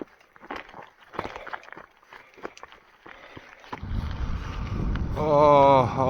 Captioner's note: heavy breathing